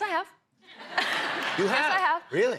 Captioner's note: laughter